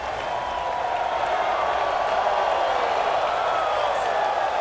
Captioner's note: crowd cheering continues